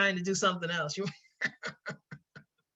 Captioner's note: laughs